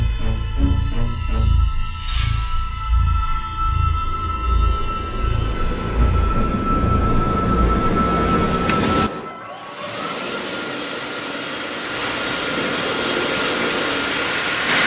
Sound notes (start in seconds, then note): 9.6 hand dryer sounds